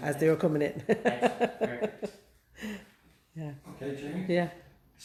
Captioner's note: laughing